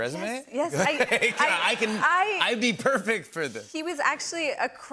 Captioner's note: laughter